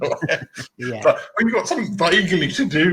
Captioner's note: laughing